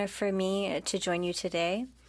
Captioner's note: speaking French